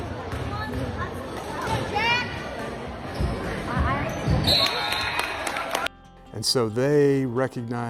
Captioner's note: applause